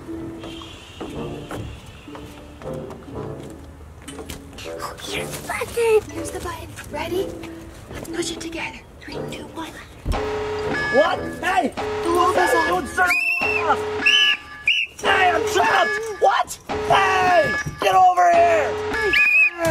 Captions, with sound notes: - Oh, here's the button. - There's the button, ready? Let's push it together, okay, two, one. (beeping) (whistles) - I'm trapped, what, get over here.